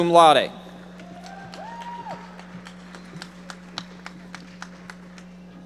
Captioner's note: audience applauding